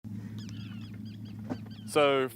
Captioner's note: seagulls cawing